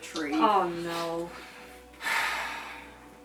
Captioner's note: sighing